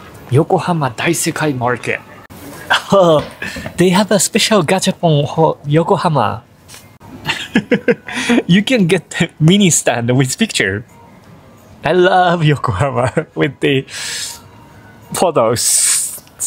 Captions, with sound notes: Yokohama Daisekai Market. Ooh, they have a special gachapon for Yokohama. [LAUGHS] You can get the mini stand with picture. I love Yokohama with the... photos.